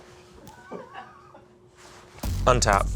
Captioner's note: crew laughing